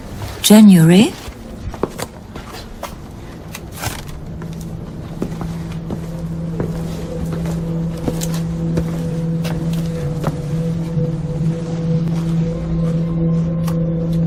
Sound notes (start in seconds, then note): 0.0 feet clopping; 0.0 traffic noise; 1.6 feet clopping; 1.6 traffic noise; 8.8 atmospheric music